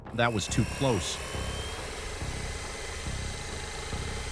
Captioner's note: drone whirring